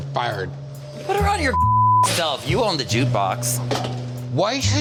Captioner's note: beep